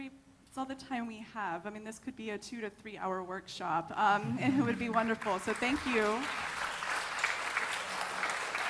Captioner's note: laughter